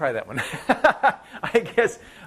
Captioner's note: laughing